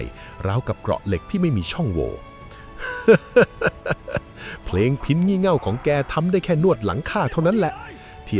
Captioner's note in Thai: เสียงหัวเราะ